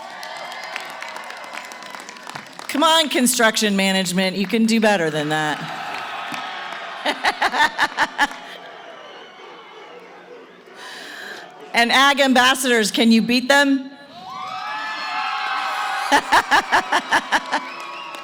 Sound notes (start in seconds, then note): 0.0 cheering & applause; 5.0 cheering & applause; 9.1 cheering; 14.1 cheering